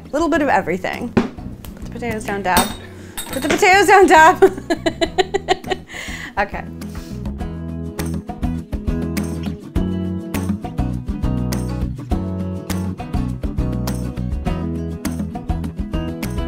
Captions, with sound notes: A little bit of everything. Put the potatoes down, Deb. Put the potatoes down, Deb. (laughs) Okay. (gentle upbeat music)